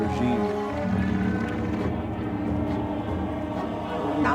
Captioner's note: vehicles buzzing